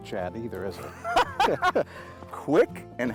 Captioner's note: laughter